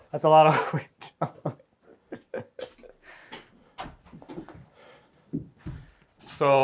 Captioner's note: laughing